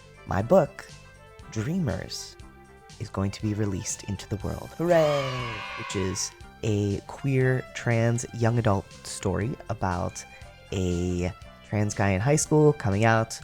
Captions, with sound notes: my book, Dreamers, is going to be released into the world. Hooray! [cheering] which is a queer, trans young adult story about a trans guy in high school coming out,